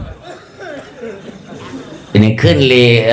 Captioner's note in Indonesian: tertawa